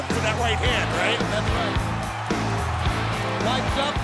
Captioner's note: crowd cheering